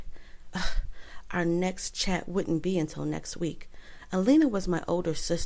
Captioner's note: gasp